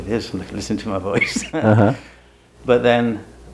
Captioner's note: laughs